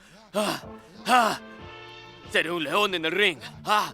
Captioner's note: imita jadeo